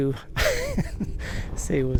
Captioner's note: laughing